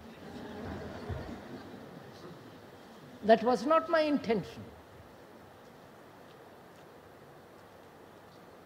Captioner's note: laughter